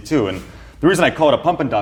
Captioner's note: air whooshing